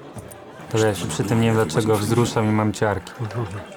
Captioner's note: in Polish